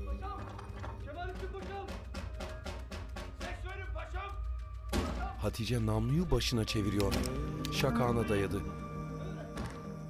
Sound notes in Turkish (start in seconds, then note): 0.0 Kapı yumruklanma sesi; 6.9 Emniyet açma sesi; 8.9 Kapı yumruklanma sesi